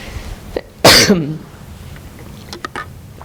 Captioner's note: coughing